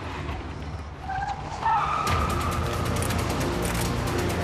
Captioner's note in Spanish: chirrido de neumáticos